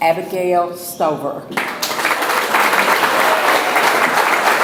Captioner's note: audience applauds